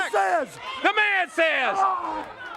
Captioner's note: crowd chatter